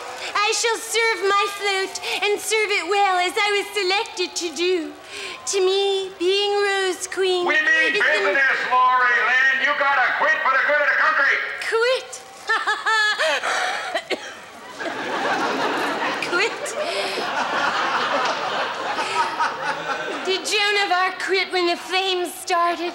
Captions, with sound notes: I shall serve my float and serve it well. As I was selected to do. To me, being Rose Queen... We mean business Laurie Lynn. You got to quit for the good of the concrete. Quit? Ha ha ha *coughs* Quit? Did Joan of Arc quit when the fame started?